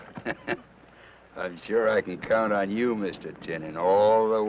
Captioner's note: chuckles